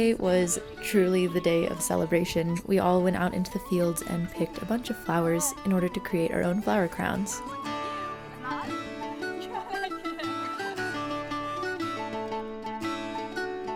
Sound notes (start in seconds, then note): 7.6 guests talking; 10.4 uplifting folk music